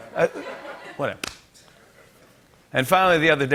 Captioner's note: laughter